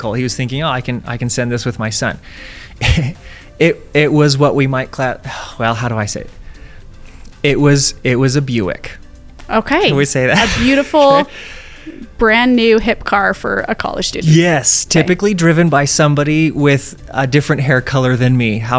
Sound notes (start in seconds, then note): 10.3 laughs